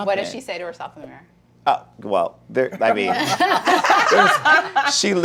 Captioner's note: laughter